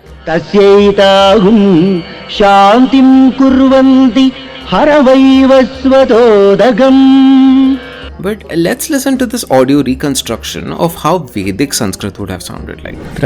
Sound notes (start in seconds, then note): 2.2 Recitation from Kathopanishad